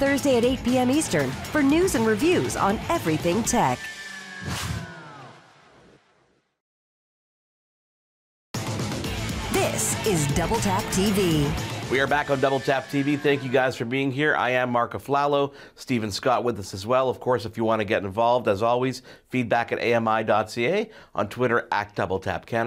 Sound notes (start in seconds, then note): 4.3 whoosh; 8.6 theme music